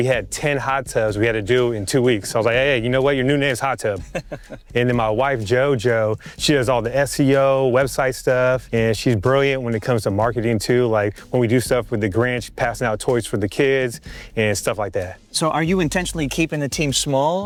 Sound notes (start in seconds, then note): 3.8 speaker chuckles